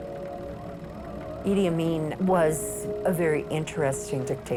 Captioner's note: none